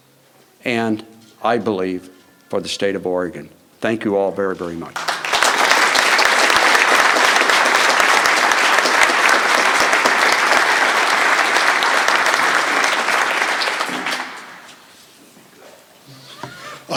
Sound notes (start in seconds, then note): 4.9 applause